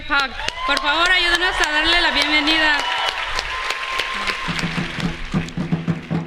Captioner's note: Aplausos